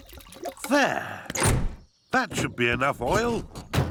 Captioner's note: none